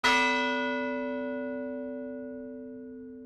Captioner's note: bell ringing